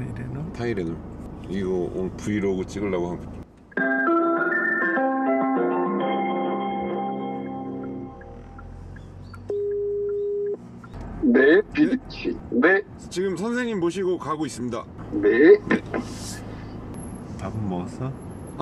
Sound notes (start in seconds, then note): 3.8 phone ringing